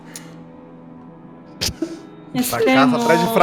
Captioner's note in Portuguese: risadas